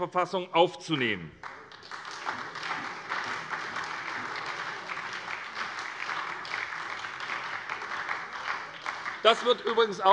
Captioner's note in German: Beifall bei der SPD